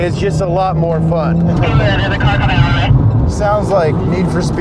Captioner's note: woman On Radio